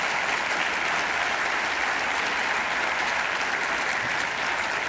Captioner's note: applause